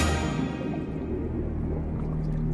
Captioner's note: music accent; underwater bubbling